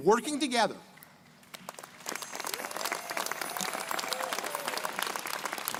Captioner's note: crowd applauding